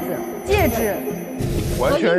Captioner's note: ring